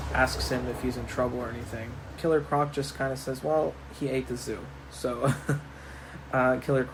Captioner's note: chuckle